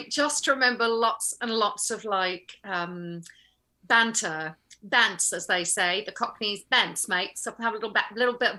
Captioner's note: cockney accent